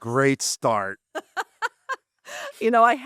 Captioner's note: laughter